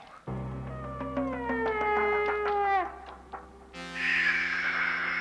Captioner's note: Dopey howls; Sleestak hiss